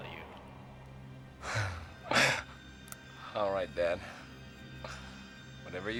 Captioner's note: chuckles